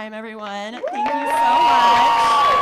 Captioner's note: audience clapping; audience cheering